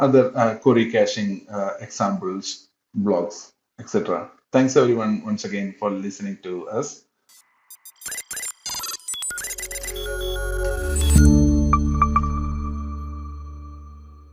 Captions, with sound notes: other query caching examples, blogs, et cetera. Thanks everyone once again for listening to us. (static screeching) (bright music)